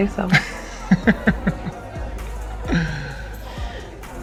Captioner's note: Kyle laughing